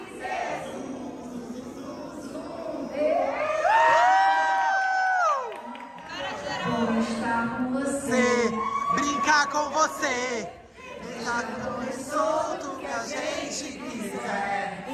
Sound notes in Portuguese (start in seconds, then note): 3.4 gritos